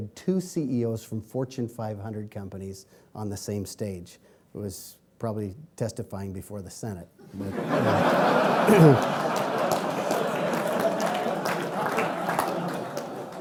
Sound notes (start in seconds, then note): 7.3 laughing; 8.2 clapping